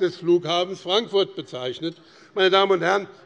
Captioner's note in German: none